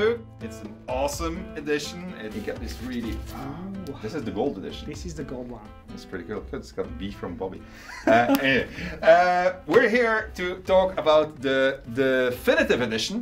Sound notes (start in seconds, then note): 7.8 laughter